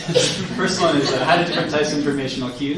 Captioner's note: laughing